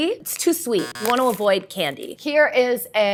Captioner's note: buzzer sounds